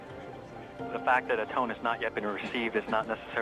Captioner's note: murmurs